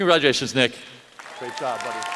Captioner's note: applause